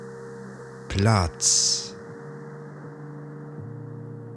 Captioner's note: german